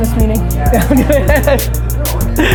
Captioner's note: Gary laughs